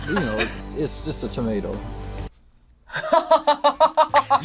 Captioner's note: laughs